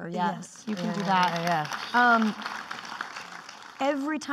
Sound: clapping

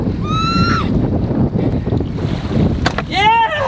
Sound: bird screeching

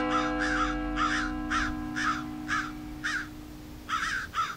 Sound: church bell; crows

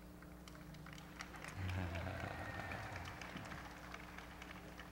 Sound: applause

